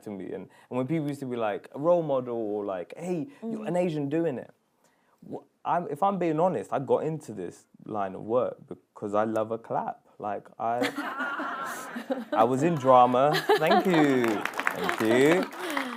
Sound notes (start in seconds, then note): 13.4 audience applause